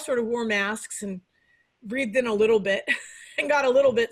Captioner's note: laughs